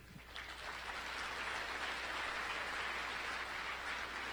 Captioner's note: applause